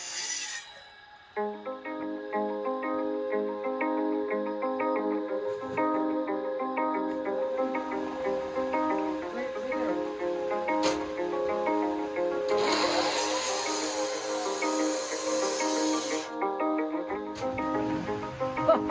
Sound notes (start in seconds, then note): 1.8 soft music; 12.4 saw rings